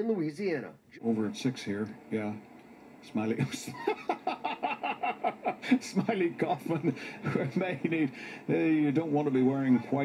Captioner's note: laughing